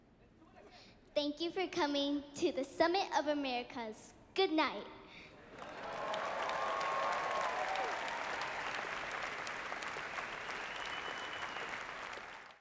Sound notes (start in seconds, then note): 5.5 applause